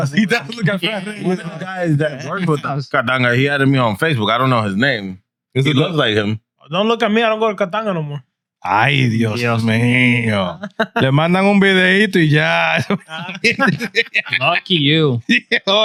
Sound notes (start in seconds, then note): 12.8 laughing